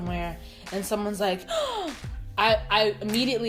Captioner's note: gasps